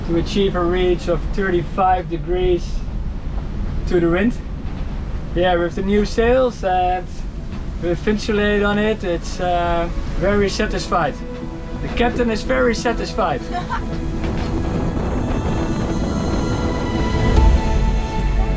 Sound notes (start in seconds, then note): 13.4 laughs; 15.6 calming music